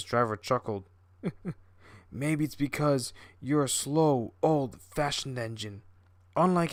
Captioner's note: chuckle